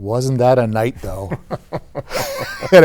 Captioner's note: laughing